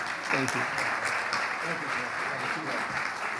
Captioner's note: audience applauding